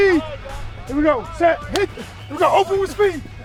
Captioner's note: coach claps